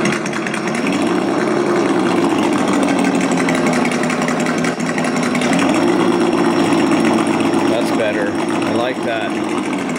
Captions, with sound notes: (engine grumbling) That's better. I like that.